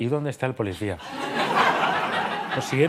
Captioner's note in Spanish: Risas